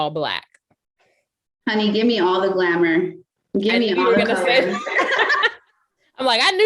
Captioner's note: laughter